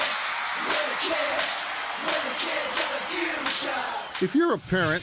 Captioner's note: cheering